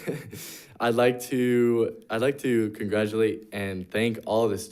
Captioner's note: chuckles